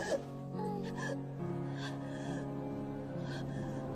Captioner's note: cry